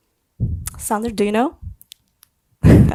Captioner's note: laughs